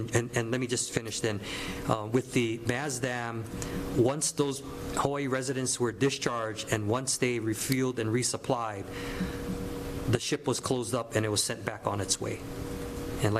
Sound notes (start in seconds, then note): none